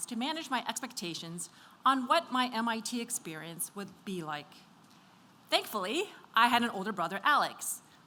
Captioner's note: none